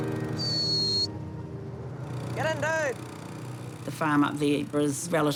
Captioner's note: whistles